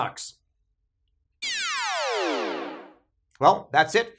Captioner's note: electronic buzzing